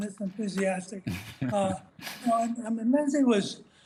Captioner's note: laughter